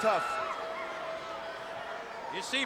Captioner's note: crowd bustling